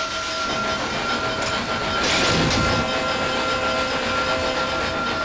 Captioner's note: loud mechanical sounds